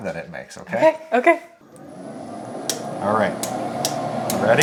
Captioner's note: machine whirring; metal clicking